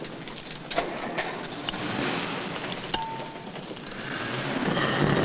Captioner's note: motor revving